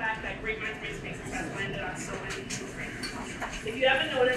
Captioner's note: speaking away from mic